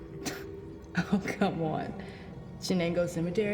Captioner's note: scoffs